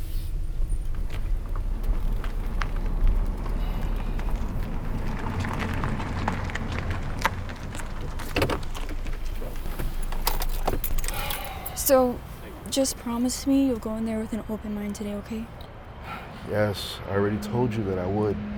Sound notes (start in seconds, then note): 11.0 sighing